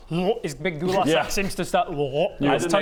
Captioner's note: glurgh